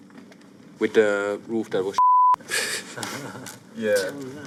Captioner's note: laughs